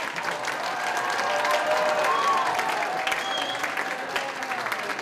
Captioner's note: cheers and applause continue